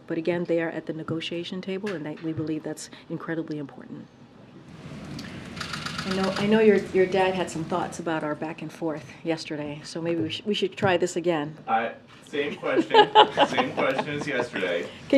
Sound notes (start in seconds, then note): 12.4 laughs